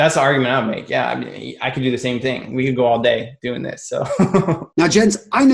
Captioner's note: laughs